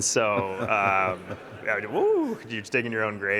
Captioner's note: audience laughing